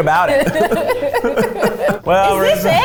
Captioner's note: both laugh